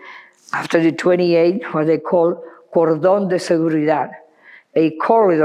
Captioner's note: speaking foreign language